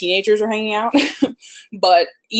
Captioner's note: laughs